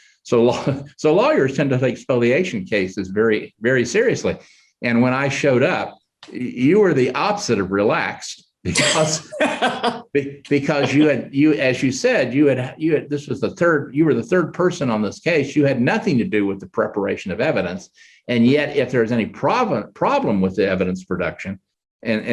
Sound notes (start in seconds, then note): 8.7 laughing loudly